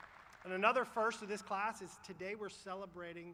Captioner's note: applause